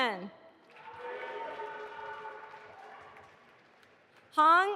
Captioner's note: audience applauding